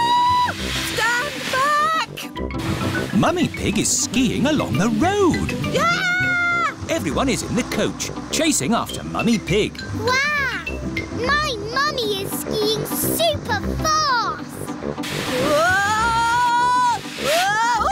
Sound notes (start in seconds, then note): 0.2 shrieks; 5.7 shrieks